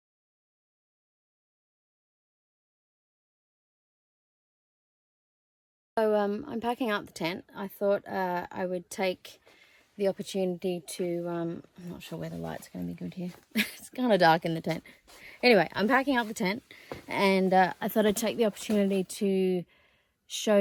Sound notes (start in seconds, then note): 13.5 laughs